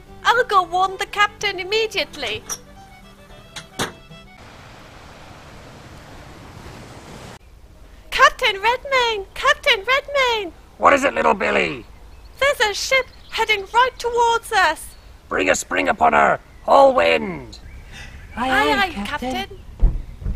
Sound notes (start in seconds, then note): 3.5 door opens then closes